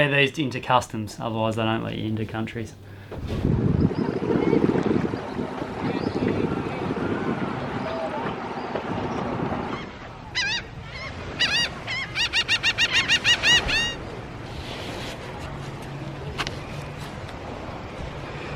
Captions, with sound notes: into customs otherwise they don't let you into countries. (wind blows) (seagulls squawking)